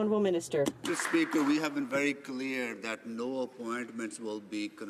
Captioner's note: applause